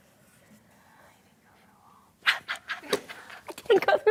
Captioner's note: Jodie whispers; laughs